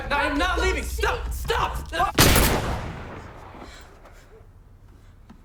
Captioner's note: gun bangs